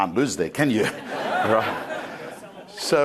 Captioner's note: crowd laughing